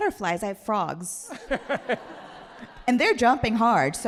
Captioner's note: all laughing